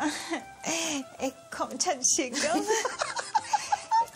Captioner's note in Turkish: Gülüyor